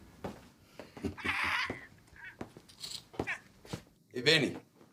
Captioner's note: muted squeeling